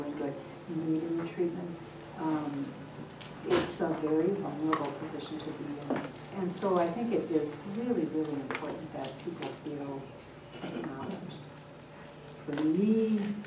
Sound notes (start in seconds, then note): 10.5 person clears throat